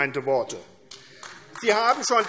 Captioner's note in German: Beifall AfD